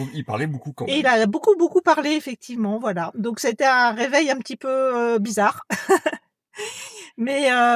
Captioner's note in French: rires